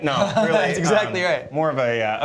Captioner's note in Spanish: risas